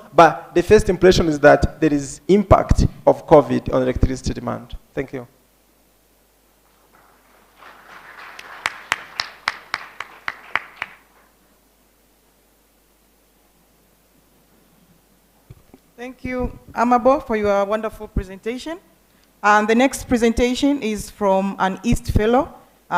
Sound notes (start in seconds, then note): 6.7 applause